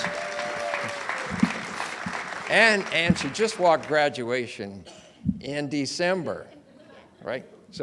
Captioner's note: audience cheers and applauds